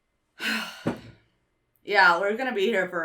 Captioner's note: sighs